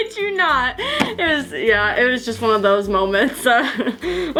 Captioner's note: laughing